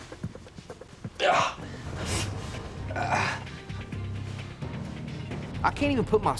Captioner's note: groaning